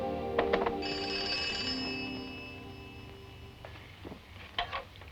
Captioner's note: telephone ringing